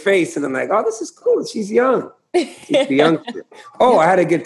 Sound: laughter

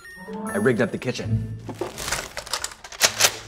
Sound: plastic crinkling; gun cocking

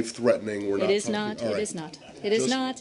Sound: laughter

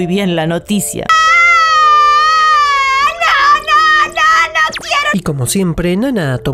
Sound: crying

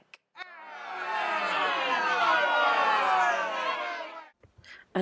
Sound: booing

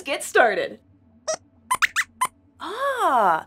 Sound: squeaks squeaks

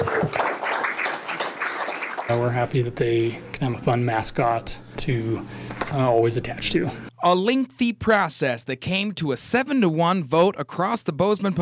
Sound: applause

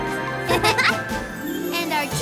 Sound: both chuckle

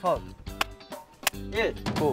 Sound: clap

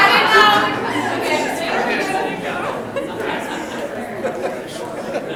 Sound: people chattering loudly; people laughing drowns out speaker

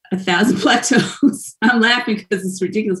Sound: laughs

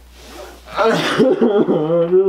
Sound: sobs

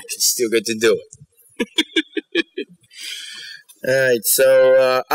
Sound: laughter

